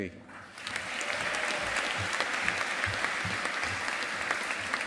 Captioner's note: audience applauding